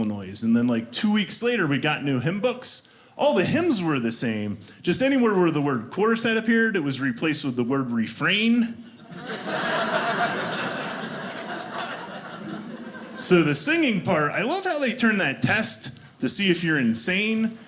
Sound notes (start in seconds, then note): 8.9 audience laughing